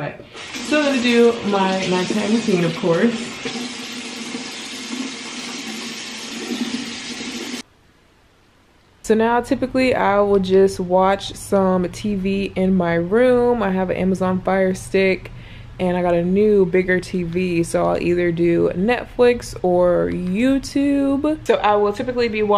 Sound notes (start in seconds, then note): 4.5 water running